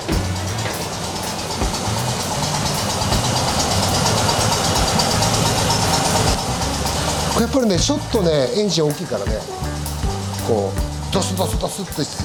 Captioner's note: engine Power